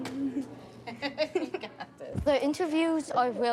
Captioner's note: giggles; both giggle